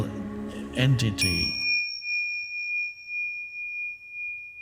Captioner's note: bell dinging